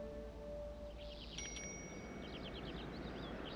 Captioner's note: bicycle bell chimes